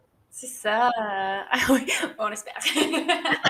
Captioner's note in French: rires